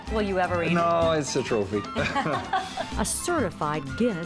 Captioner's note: laughing